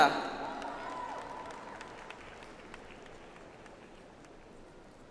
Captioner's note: audience applauds